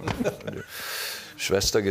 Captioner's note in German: Lachen